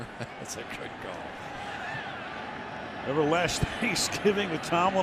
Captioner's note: laughs